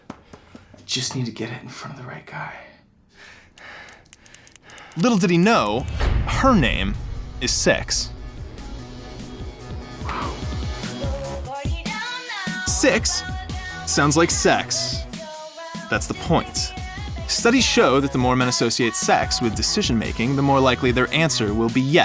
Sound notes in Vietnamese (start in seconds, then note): 3.6 tiếng bấm bút; 9.9 tiếng nhạc pop